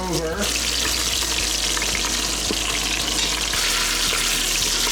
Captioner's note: oil splatters